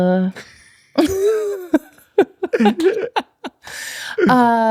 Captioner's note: laughing